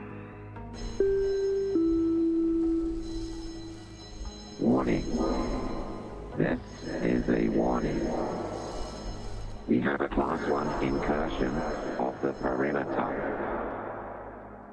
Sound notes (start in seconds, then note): 0.9 bing Bong